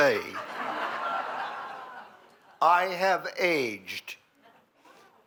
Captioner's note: laughter